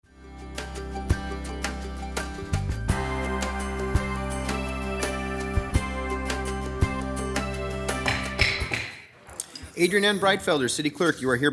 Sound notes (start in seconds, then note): 0.1 gentle music; 6.5 person banging